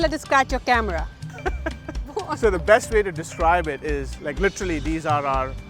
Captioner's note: laughing